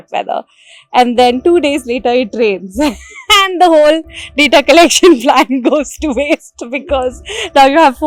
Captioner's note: laugh